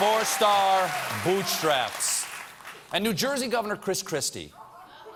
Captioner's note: applause; laughter